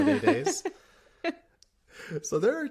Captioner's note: laughter